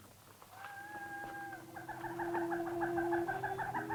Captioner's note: animal clucking; somber music